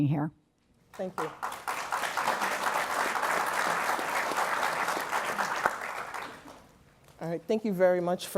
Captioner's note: applause